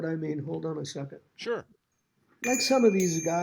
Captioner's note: bell tinkles